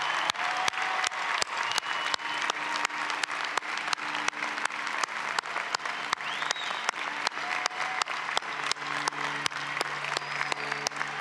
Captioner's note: applause